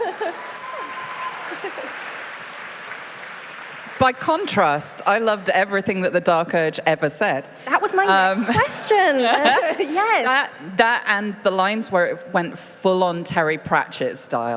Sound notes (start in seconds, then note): 9.0 applause